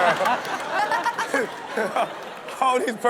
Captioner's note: crowd laughing